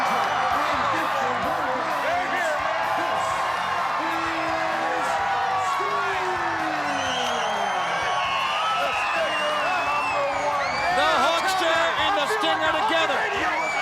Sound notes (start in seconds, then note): 6.1 fan screams